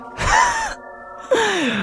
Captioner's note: laughs